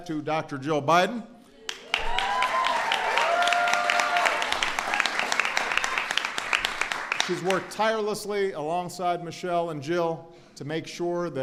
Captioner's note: applause